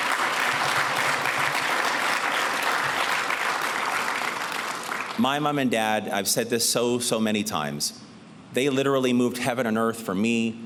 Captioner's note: applause